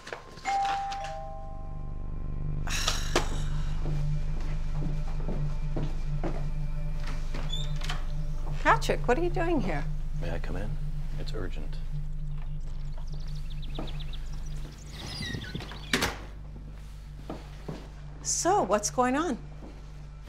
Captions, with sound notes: [doorbell ringing] [Kate sighs over tense electronic music] [door rattling] Patrick, what are you doing here? - May I come in, it's urgent. [birds chirping over tense electronic music] [door rattling] - So, what's going on?